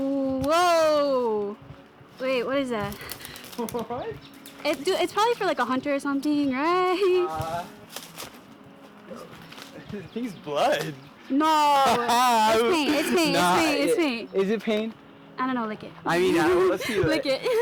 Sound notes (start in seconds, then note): 3.3 Ali laughing; 16.2 laughing